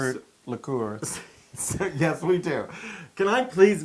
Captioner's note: laugh